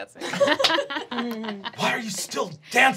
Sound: laughing

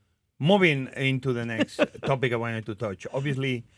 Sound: Martha laughs

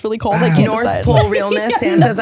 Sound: sighs

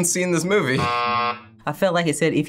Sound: buzzer rings

